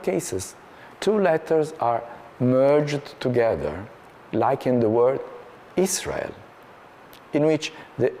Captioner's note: Hebrew